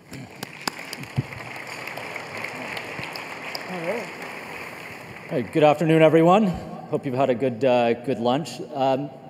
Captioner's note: applause